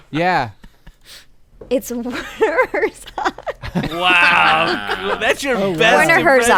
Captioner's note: laughter; laughter in disbelief